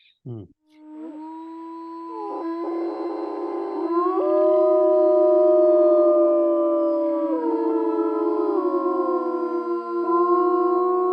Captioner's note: wolves howling